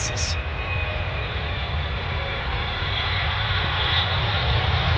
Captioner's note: plane engine roaring